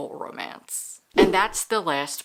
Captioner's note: whoosh